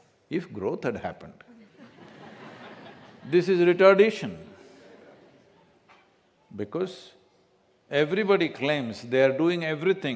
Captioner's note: laughter